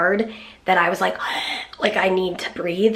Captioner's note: gasping